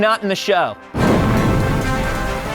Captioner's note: whoosh